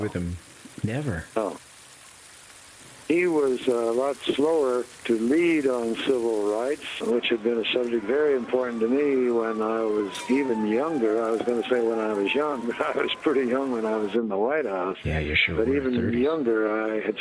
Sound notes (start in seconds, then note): 12.7 chuckles